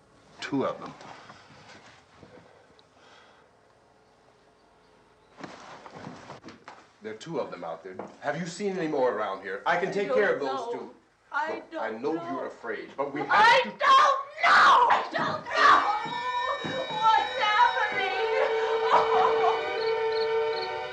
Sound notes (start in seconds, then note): 17.9 whimpers; 19.0 barbra sobs